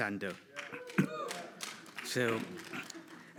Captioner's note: audience cheers